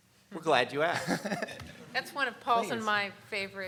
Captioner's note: laughing